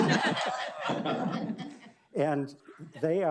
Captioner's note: audience laughing